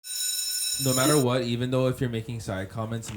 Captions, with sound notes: (alarm bells trilling) - No matter what, even though you're making side comments,